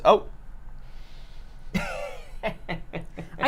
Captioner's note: laughs